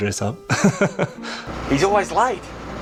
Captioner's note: laughs